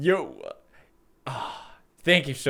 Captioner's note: sex sound